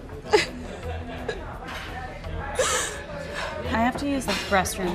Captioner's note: crying